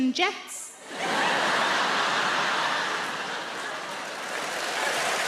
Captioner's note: audience applauds